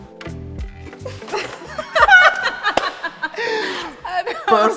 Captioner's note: laughter